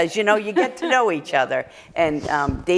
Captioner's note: laughter